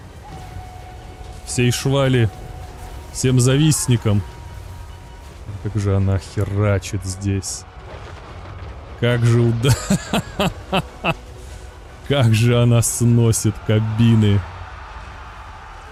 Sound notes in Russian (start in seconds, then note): 9.6 смех